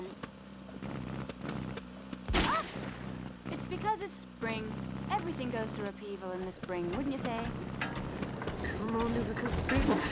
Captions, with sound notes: ( loud backfire ) Oh! It's because it's spring. Everything goes through upheaval in the spring, wouldn't you say? Come on, you little bitch.